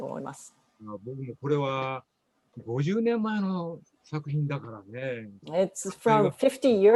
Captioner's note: speaking japanese; speaking japanese